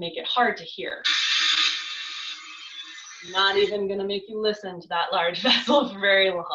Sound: ship noice

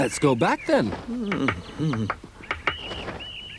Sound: Moominpappa grumbles

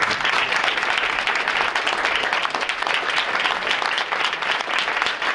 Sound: audience applauding

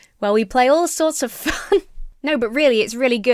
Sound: laughs

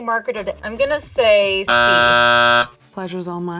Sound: buzzer buzzing

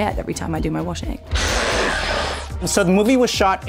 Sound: screams

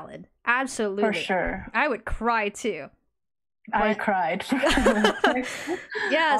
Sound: laughs

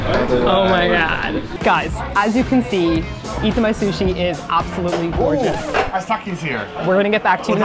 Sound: record scratch

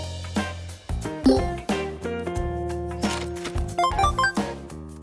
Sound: upbeat music; video game sounds

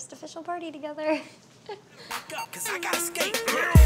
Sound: chuckles

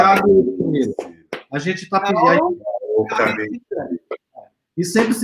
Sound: speaks portuguese

